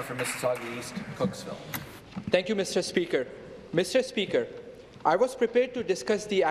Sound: applause

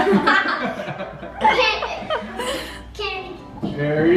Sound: all laugh

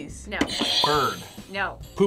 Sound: buzzer rings

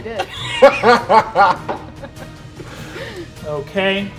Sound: players laughing

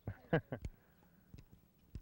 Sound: laughter

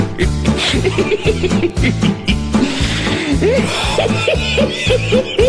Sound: Pinky and the Brain Keep Laughing

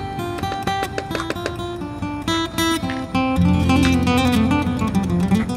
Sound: Donny knocks on door

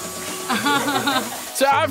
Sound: laughs

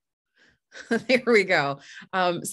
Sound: chuckles

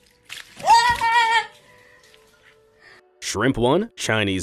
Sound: woman yells

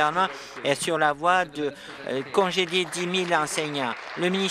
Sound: applause

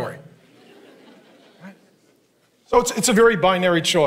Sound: congregation laughing

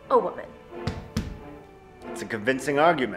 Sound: Byron stamps his cane

